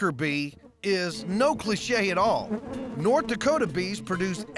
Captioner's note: bees buzzing